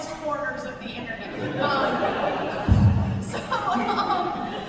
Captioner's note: laughter